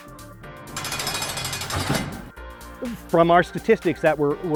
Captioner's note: prison cell rolling open